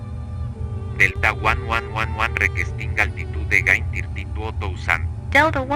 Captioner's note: speaking Spanish